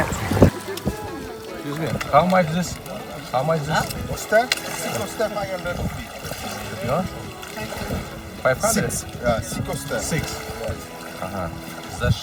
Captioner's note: conversation in English